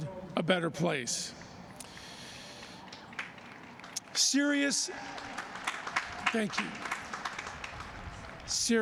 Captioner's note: applause